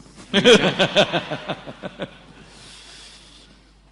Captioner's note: laughs